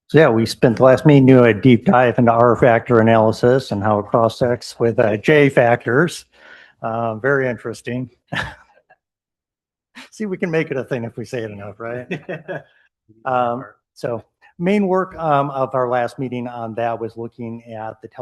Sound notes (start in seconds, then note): 9.0 laughter